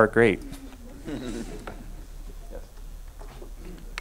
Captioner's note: audience laughing